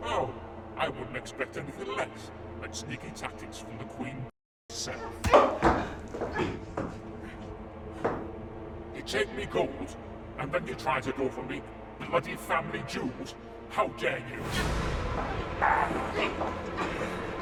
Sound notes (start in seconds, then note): 5.2 kick thudding; 14.7 intense music